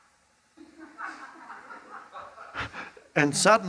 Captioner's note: audience laughs